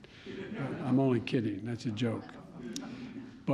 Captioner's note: laughter